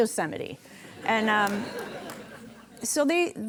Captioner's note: audience laughing